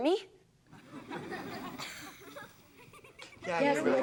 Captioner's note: audience laughs